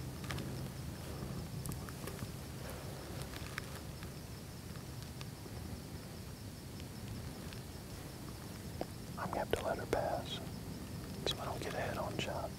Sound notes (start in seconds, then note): 2.4 whispering